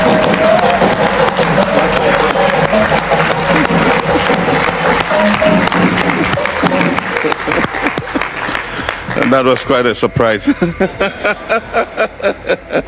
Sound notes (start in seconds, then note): 0.0 applause; 10.4 laughter